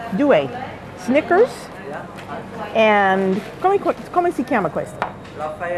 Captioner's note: speaking Italian